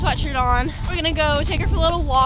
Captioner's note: horse walking